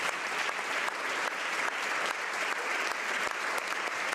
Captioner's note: applause